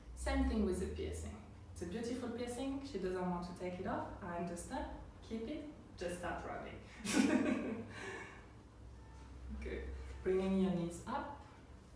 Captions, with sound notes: Same thing with the piercing. It's a beautiful piercing. She doesn't want to take it off, I understand. Keep it, just start rubbing (chuckling). Good. Bringing your knees up.